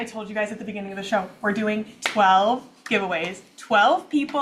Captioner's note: claps